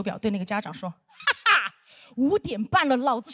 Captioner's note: laughing